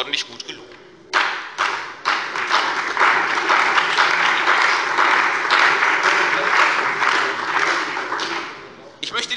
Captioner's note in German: Beifall bei der CDU und dem BÜNDNIS 90/DIE GRÜNEN